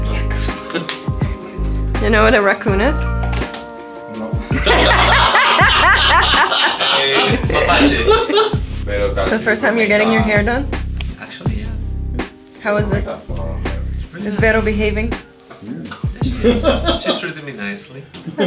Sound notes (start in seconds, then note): 1.1 laughs; 4.5 all laugh